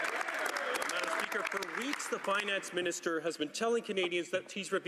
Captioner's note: some Applause